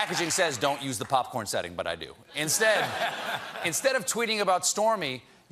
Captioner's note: cheers and applause